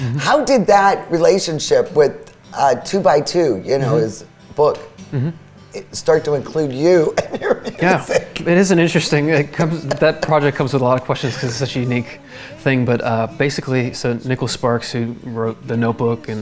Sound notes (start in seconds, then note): 7.8 laughs